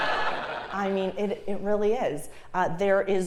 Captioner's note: laugh